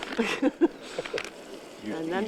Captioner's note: laughs